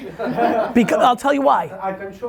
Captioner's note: laughing